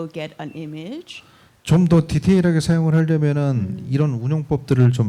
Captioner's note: speaking korean